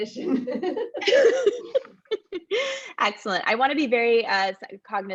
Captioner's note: laugh